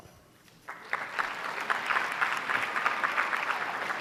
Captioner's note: applause